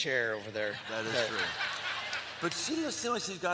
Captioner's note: laughter